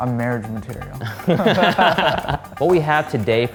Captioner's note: men laughing